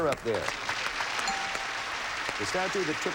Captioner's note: audience applauding